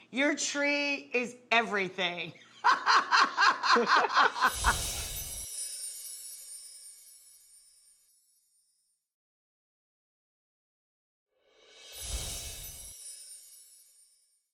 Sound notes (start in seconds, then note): 2.4 Rachael laughing; 4.0 bells tinkling